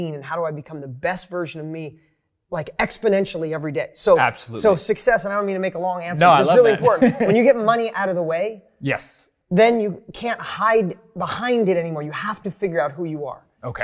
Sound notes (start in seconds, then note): 6.2 laughs